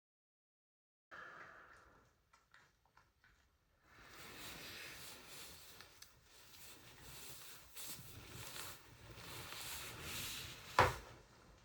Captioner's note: sighs